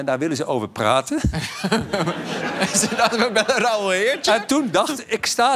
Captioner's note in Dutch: gelach